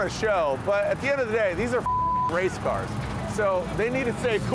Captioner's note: beep